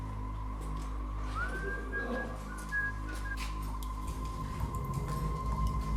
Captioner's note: ominosa de la música; silbido